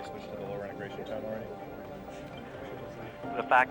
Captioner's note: murmurs